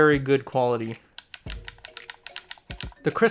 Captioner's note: d-pad clicking sounds